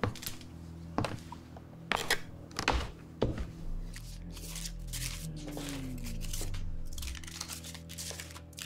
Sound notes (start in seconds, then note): 0.1 footsteps thudding; 3.9 bills rustling